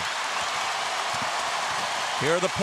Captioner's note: crowd cheering